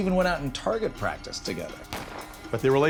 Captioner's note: gunshot